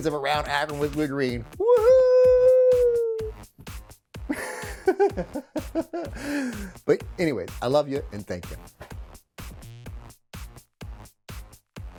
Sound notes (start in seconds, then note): 4.3 laughs; 9.1 upbeat music